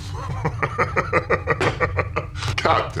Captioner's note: laughter